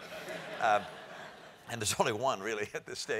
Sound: laugh

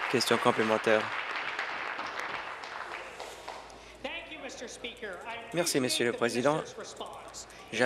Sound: applause

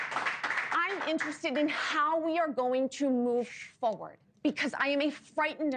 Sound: applause

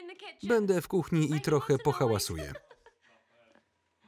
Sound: laugh loudly

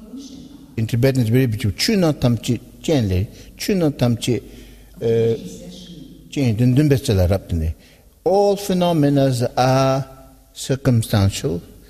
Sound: tibetan

